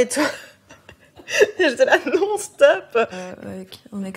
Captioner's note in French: rires